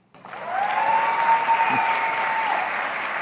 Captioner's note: applause